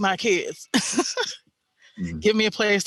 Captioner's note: chuckles